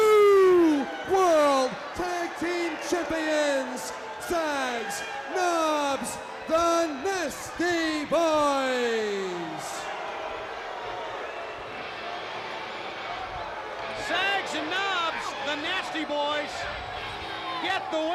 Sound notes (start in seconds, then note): 4.7 crowd cheering